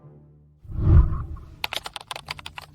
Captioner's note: whooshing sound; keyboard clicking